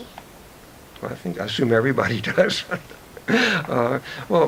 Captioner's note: chuckles